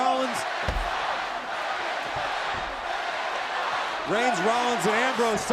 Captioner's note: applause